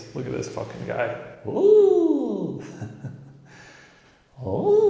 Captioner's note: laughing